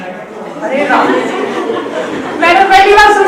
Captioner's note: everyone laughs